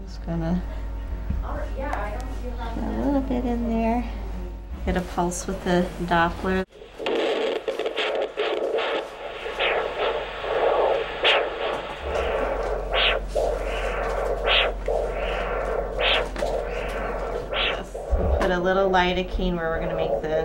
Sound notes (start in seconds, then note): 6.9 sound of pulse